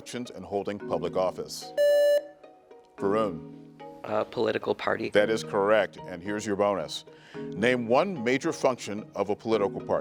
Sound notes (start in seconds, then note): 1.8 buzzer beeps